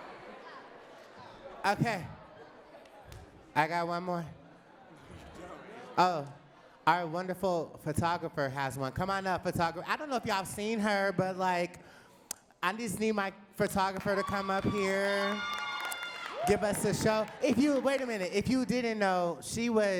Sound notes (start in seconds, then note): 16.8 audience claps